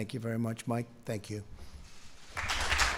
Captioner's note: applause